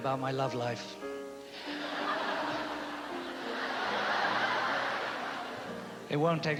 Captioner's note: laughter